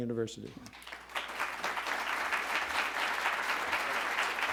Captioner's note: audience applauding